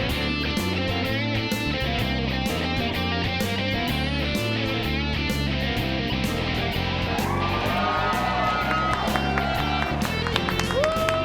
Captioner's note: cheers and applause